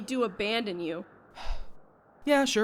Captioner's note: sigh